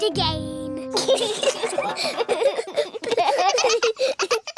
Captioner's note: all giggling